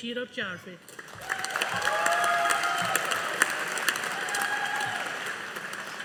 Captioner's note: audience applauding